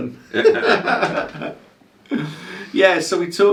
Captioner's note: laughter